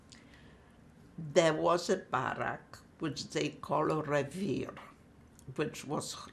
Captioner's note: non-english